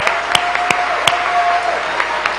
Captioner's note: applause